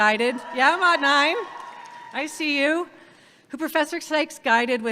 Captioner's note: audience cheers